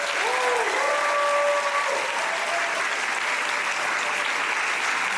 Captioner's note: audience applauding